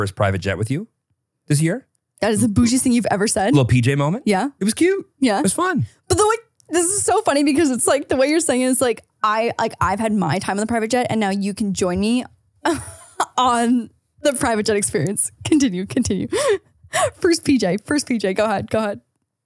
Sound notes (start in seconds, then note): 12.6 laughs